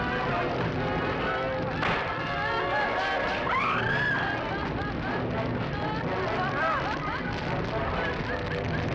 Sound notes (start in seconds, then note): 3.3 screams